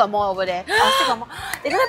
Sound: big gasp

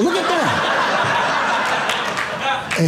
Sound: audience laughing

